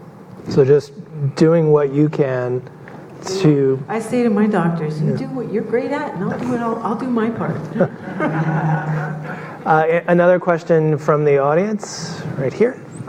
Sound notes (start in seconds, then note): 7.6 audience laughing